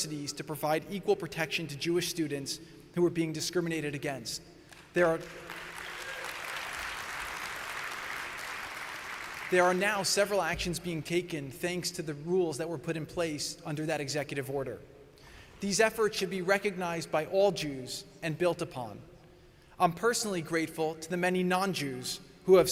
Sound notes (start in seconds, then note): 6.9 applause